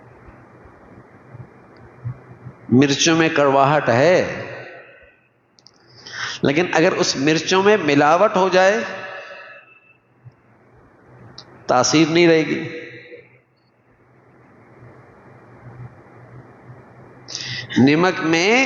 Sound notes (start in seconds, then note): 6.0 sigh